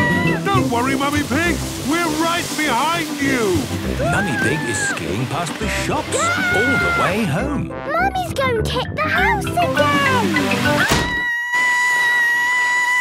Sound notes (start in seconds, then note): 0.0 screaming; 10.8 Mummy Pig screaming